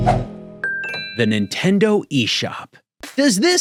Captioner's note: chiming